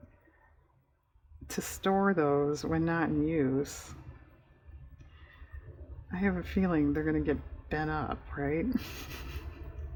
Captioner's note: laughs